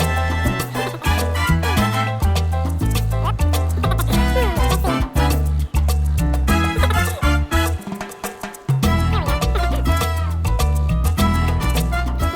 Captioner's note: laughing, hmmm, laughing